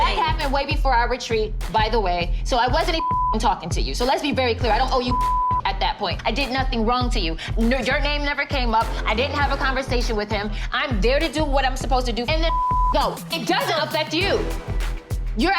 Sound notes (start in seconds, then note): 2.9 beep; 4.8 beep; 12.4 beep